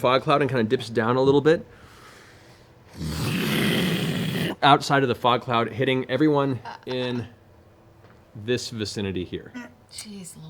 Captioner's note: exhales